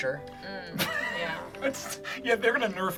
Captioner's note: laughs